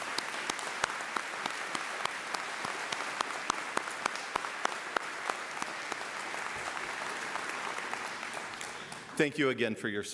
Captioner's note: applause